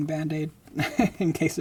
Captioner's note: laughing